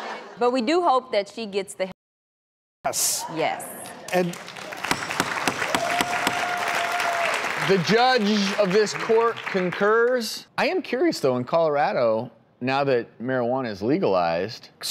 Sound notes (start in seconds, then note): 0.0 audience laughing; 3.8 audience clapping; 4.9 gavel banging